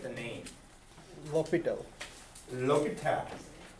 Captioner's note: voiceover